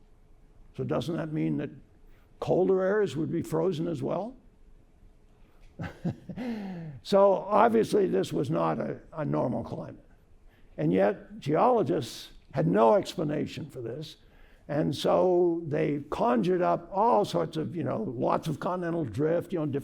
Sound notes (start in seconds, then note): 5.8 laughter